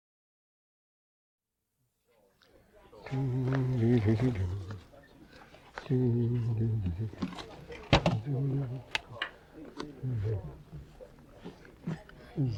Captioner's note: humming